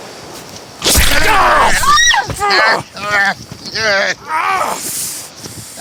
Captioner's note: Cammy shrieks; Addison yells